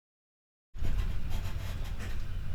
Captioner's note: none